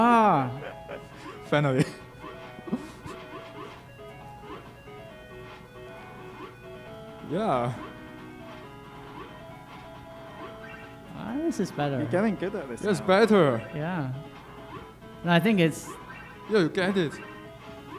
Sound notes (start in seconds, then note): 2.3 game beeping